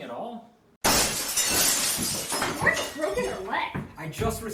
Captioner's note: glass shatters